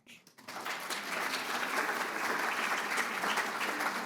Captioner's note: audience applauds